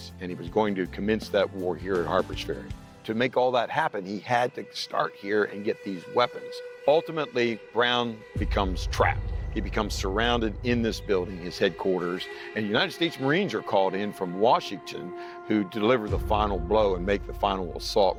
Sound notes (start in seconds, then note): none